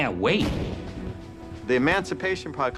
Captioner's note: weapon fires